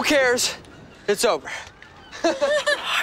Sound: chuckles

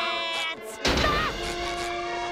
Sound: yelping; grunting

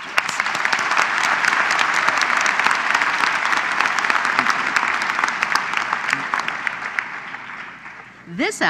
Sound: applause

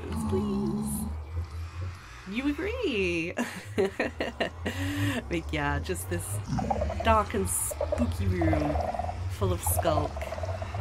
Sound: pig grunts

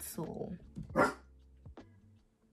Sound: still barking

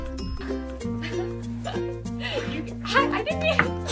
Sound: laughing

